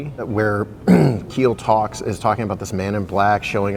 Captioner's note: clears throat